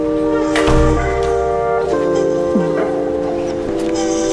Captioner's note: door closes; light music